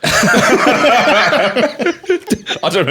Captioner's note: both laughing